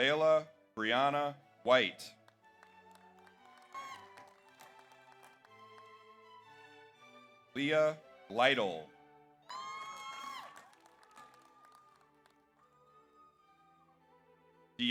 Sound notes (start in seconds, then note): 2.1 audience applauds; 3.2 audience cheers; 9.5 audience cheers; 9.5 audience applauds